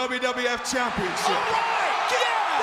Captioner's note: audience cheers